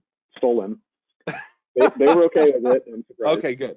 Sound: laughing

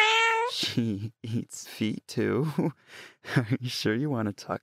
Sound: cat sounds

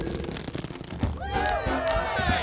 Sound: cheers and laughter

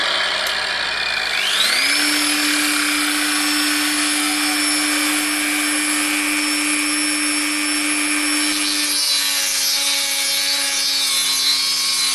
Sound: dremel grinding sound

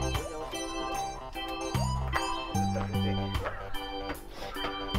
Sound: laughs

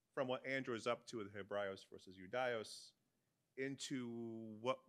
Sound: speaks in Latin

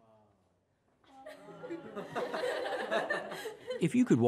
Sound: laughing

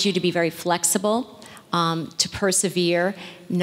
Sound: none

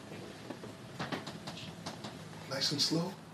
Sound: bed creaking

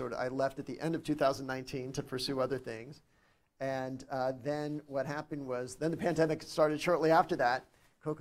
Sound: none

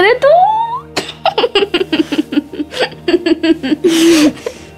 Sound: student giggles

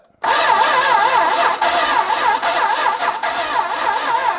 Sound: ignition stuttering

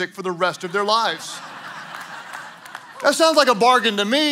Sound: congregation laughing

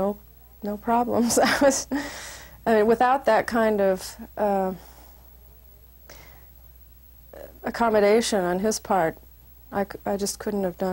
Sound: laugh

